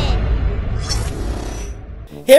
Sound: lasers whooshing

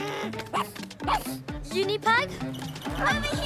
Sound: huffs; barks

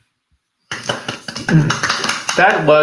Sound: clap

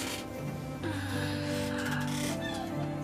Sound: Ising sighing

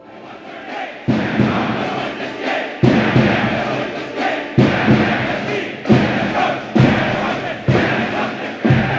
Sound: chanting

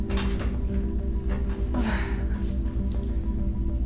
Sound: grunts

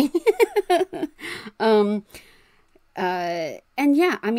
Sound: laughs

